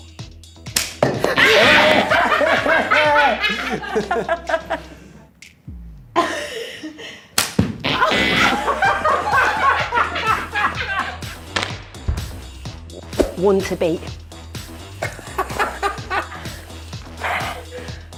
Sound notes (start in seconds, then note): 1.3 laughing; 7.9 laughing; 14.9 laughing